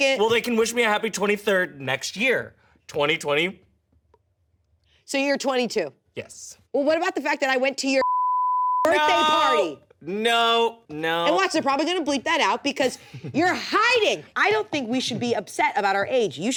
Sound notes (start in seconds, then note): 8.0 beep